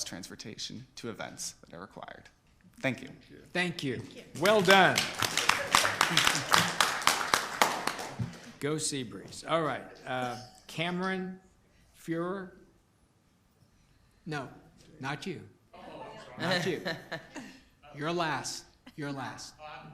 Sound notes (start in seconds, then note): 4.4 applause